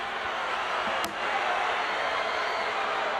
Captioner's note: crowd cheering